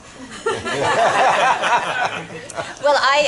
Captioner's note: laughter